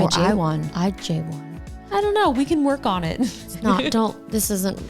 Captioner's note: laughing